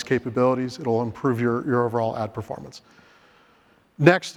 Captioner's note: inhales